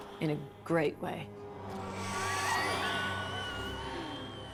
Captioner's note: screams